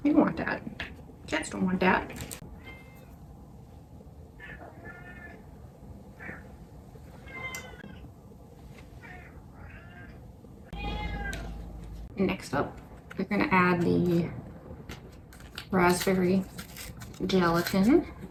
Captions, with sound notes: You don't want dat; cats don't want dat [random cat wailing noises continue unceasingly in the background] * M E O W * Next up, we're gonna add the raspberry gelatin